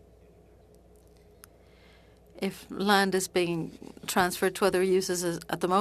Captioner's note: speaking French